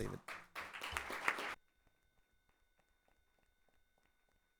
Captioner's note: audience clapping